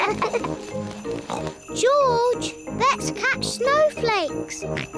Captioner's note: snorts; both giggle; snorts